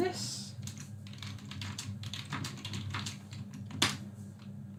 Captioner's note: keyboard clicks